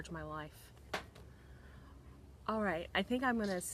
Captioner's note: glasses thud